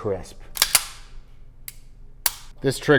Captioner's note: gun clicking